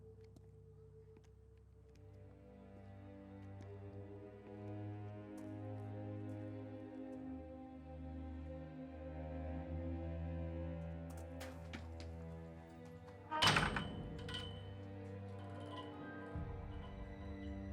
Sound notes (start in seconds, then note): 11.5 footsteps thumping; 12.6 gate clanging